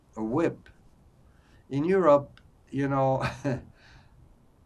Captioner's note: laughing